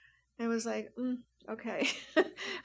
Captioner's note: laughs